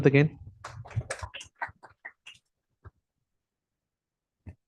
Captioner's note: applause